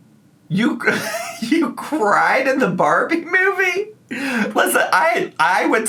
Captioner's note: laughs